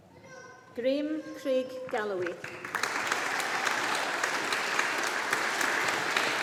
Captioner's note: audience applauding